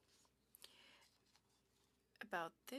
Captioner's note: speaking French